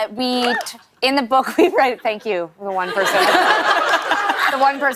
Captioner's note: laughter